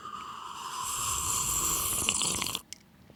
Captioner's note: sluuuurrrrppp